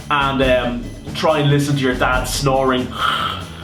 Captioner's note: zzzzz